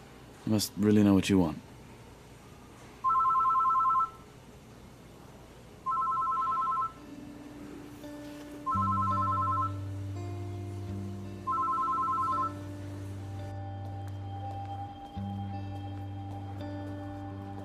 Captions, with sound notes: You must really know what you want. [phone ringing] [soft pensive music]